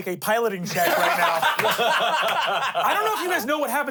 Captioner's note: everyone laughing